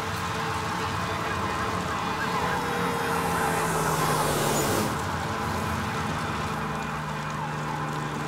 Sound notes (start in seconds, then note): 2.3 siren blaring